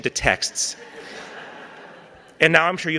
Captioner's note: audience laughing